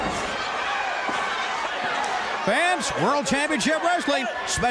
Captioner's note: crowd cheering